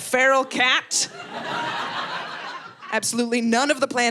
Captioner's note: audience laughing